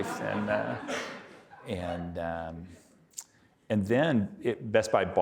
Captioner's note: audience laughing